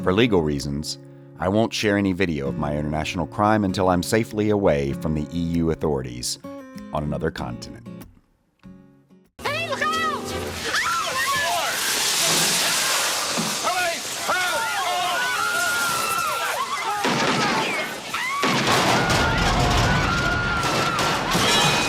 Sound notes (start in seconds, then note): 19.3 screams